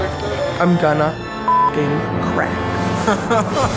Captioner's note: beep; laughs